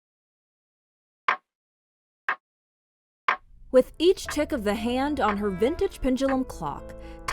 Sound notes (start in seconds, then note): 1.3 clock ticking